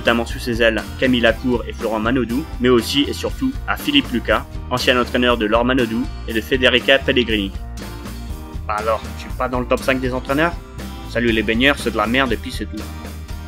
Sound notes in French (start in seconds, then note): 7.5 parlant